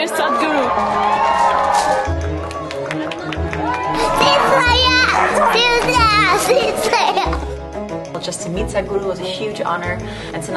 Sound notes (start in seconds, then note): 0.0 cheering; 3.8 laughs